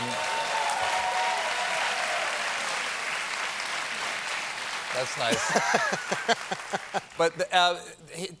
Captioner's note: applause